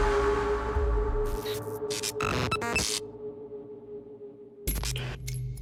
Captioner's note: static hisses and buzzes